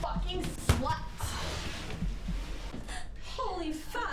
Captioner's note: thud!